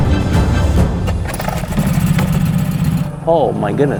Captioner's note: dramatic instrumental music; motor boat whirring